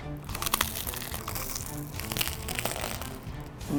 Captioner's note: crunching